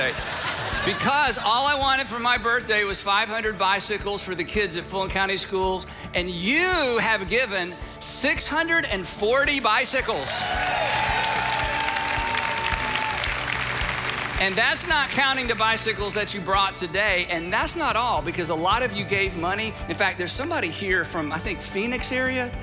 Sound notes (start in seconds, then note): 0.0 audience laughing; 10.1 audience cheering